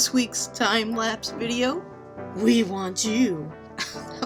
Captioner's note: laughs